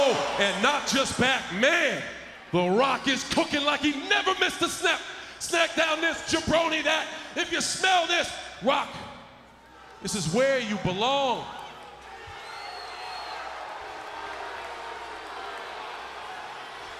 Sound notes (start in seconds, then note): 12.9 crowd cheering